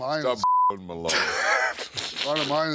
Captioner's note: beep; DDP laughs